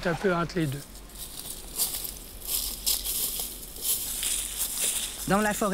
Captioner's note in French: bruit des pas